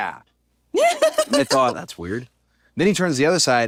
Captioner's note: laugh